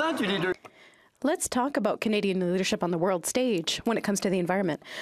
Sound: some Applause

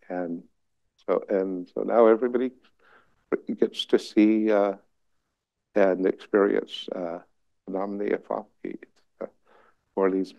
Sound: non-english

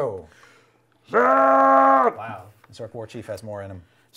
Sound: shouting

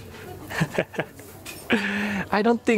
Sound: chuckles

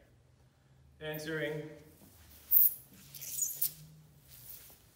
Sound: floor squeaks

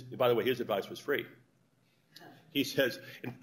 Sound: laughter

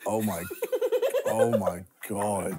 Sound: laughing

